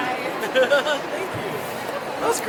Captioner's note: laughs